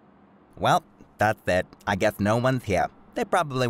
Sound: none

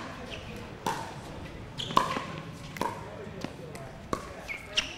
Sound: ball bouncing

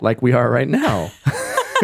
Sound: laughs

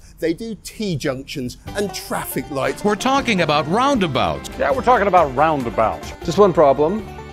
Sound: american News Anchor Voice

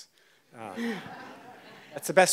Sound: audience laughs

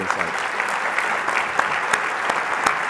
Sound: applause

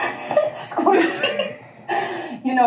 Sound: laughs

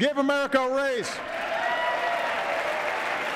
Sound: cheers, applause

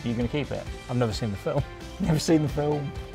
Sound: laughing

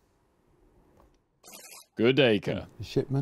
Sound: buzzer buzzes

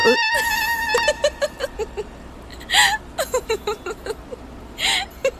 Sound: burst of laughter

